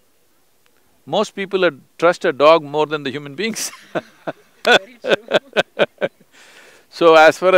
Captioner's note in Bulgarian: Двамата се смеят